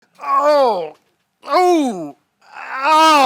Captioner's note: groans